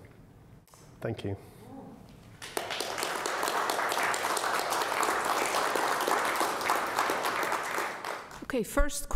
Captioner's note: applause